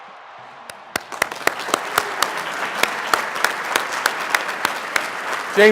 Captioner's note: cheering Sounds; applause